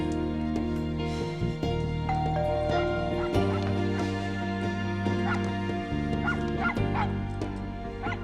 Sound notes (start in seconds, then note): 2.1 doorbell ringing; 2.7 max barking